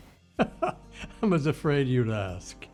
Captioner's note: laughs